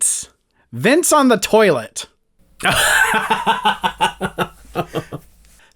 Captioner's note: laughter